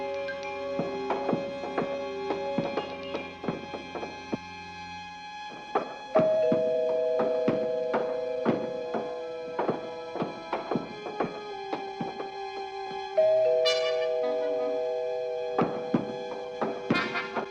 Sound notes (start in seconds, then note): 6.2 doorbell ringing; 9.8 thudding continues